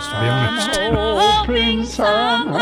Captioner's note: laughs